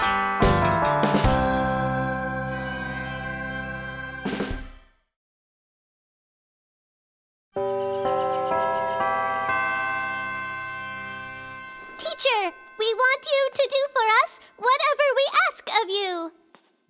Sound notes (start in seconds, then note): 7.6 bells chime